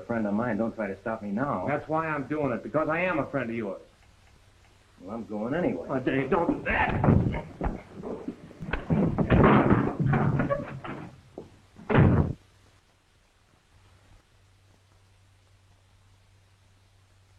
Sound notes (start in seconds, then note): 11.8 door slams